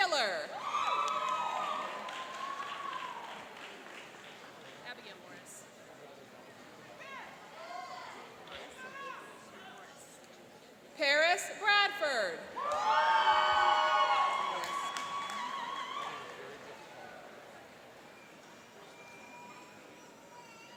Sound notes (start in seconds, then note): 0.5 cheering and applauding; 12.5 cheering and applauding